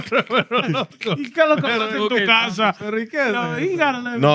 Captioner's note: laughing; speaking In Foreign Language